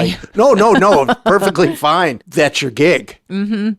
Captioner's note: laughing